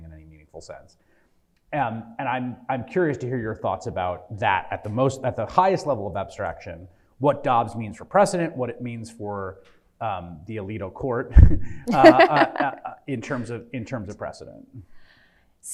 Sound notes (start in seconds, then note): 11.5 scoffs; 11.8 laughs